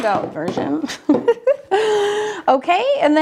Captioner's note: laughs